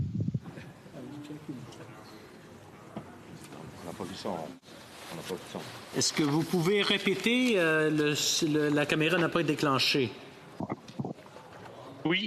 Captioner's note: speaking FRENCH